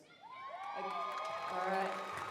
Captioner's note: applause, cheering